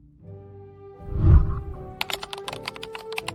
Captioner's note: whooshing sound; keyboard clicking